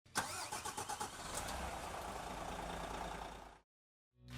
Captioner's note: vehicle engine revving